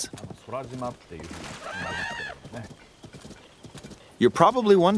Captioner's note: animal calls